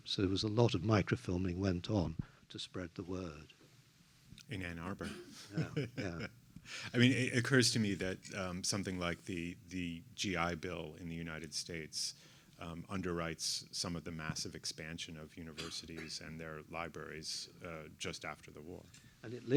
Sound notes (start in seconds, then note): 5.0 laughs